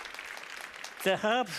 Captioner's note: audience applauds